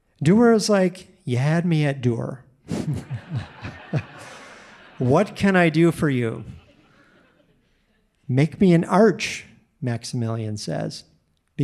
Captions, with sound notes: Durer is like, "You had me at Durer." (audience laughing) "What can I do for you?" "Make me an arch," Maximilian says.